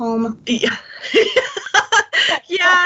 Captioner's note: laughter